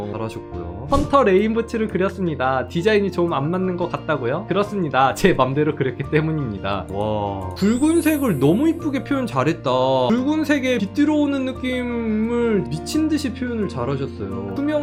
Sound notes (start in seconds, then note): 0.9 voiceover; 4.5 voiceover